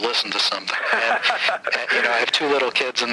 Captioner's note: man laughing